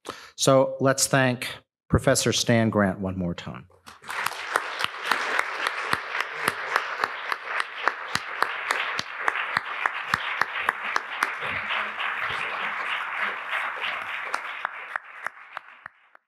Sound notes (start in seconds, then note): 4.2 applause